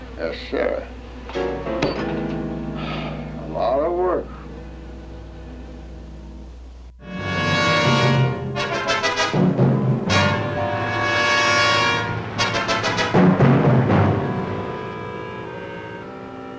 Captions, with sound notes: Yes sir. (sighs) A lot of work. (dramatic music)